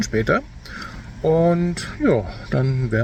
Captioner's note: speaking German